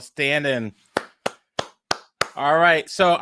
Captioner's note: clapping